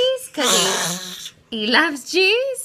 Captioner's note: baby growl